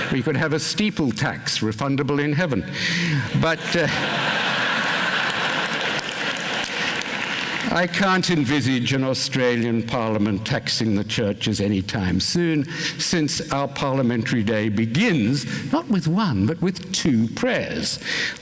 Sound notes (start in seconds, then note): 3.5 laughter, applause